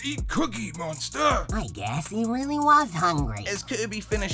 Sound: surprised

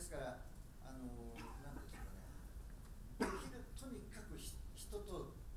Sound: speaking in foreign language

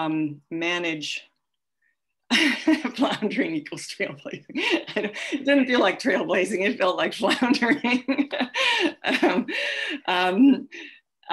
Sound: laughs

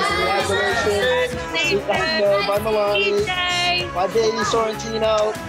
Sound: people chattering

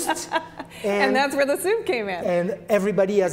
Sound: laughs

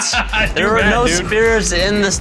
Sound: laughing

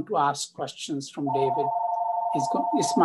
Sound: phone rings

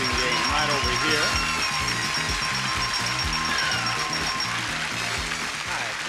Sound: bell chiming

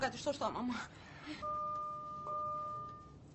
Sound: elevator dings

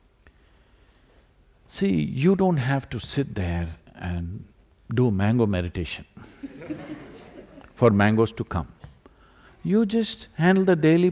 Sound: few laugh

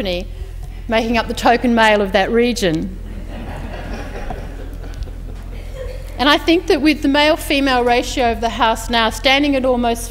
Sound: laughter

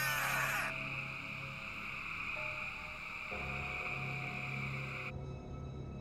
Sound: frogs croaking

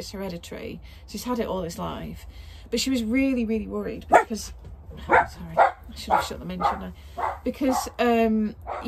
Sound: dog barking

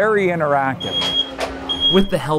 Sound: smoke alarm sounds

